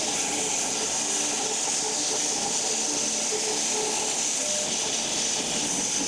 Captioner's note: log saw whirring continues